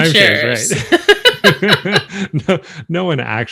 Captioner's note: both laughing